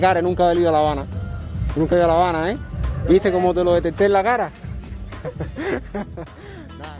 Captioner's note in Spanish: risas